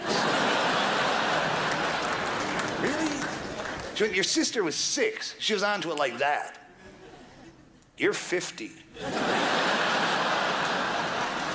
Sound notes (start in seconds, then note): 0.0 crowd laughs; 5.6 clicks fingers; 8.9 crowd laughs